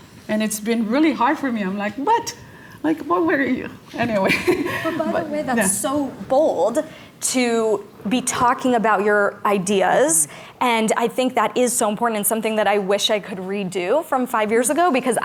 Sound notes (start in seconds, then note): 4.2 laughs